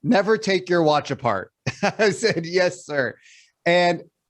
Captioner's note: laughs